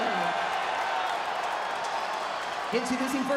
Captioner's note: crowd cheers